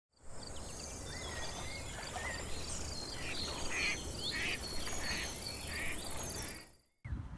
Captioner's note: nature sounds